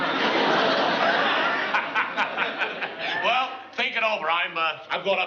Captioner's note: laughs